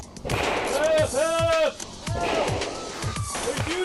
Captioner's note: man yelling